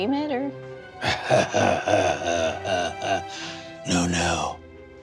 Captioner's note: chortling darkly